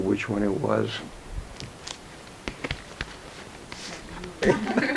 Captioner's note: album pages flipping; women chuckle